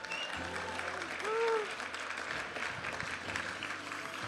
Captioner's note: audience applauding and cheering; vibrant music